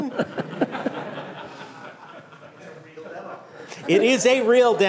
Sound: laughter

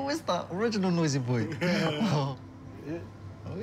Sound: both laugh

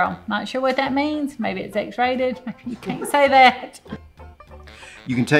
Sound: laughs

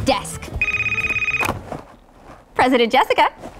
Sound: telephone rings

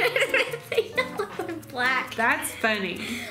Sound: laughs

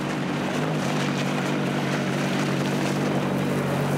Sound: engine purring

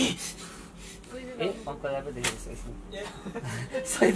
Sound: in Nepali

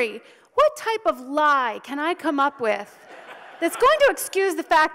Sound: audience laughs

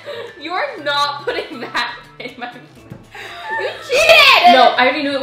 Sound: laughing

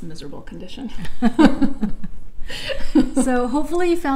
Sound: laughs

